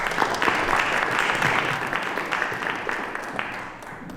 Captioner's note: applause